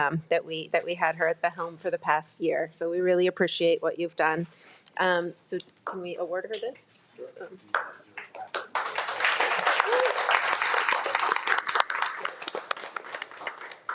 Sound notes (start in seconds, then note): 7.3 speaking faintly; 7.6 everyone applauding; 9.6 attendee cheering